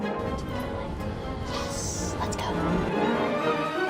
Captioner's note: whispering